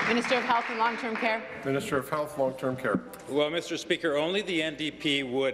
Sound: applause

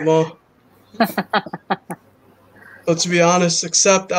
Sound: laughs

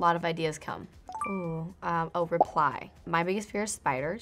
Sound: chiming

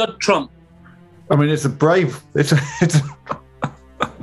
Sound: chuckling; laughing

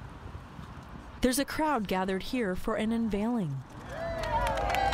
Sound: cheers

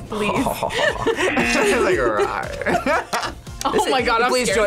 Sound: laughs; buzzer rings

